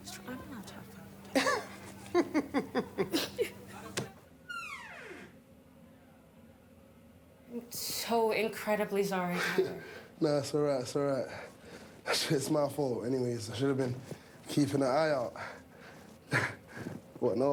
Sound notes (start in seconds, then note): 0.3 Dana speaking faintly; 1.3 Regina laughing; 3.2 both laughing; 4.4 door squeaking; 16.2 laughs